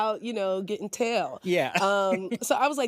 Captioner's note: chuckles